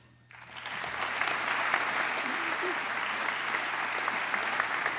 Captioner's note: applause